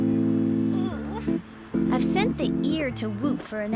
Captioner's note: grunting